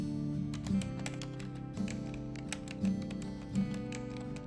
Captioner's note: keypad beeping